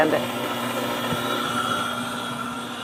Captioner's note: whisking